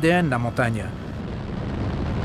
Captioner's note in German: Hubschrauberlärm